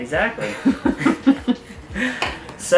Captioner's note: quietly chuckles